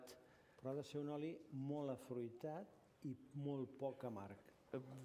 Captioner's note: non-english speech